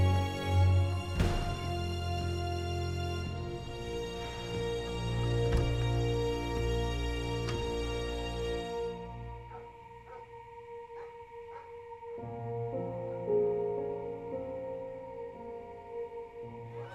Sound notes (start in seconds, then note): 9.4 dog barking in distance; 11.8 light melodic orchestral music